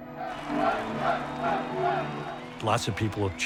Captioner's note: chanting